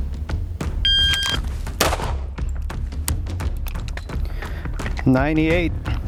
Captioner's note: timer beeps; guns fire